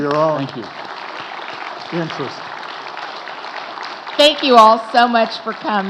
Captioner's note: audience applauding